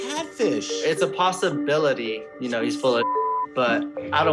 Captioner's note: beep